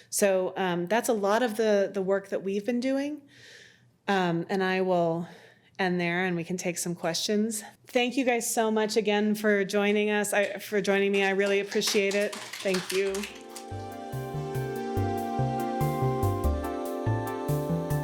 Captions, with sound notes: So that's a lot of the work that we've been doing. And I will end there and we can take some questions. Thank you guys so much again for joining me, I really appreciate it. (audience claps) Thank you. (gentle music)